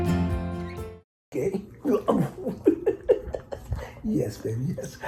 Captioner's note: laughs